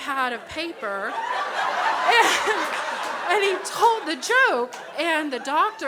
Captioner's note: crowd laughs